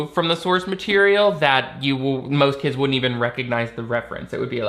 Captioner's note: none